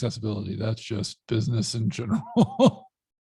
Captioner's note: laughs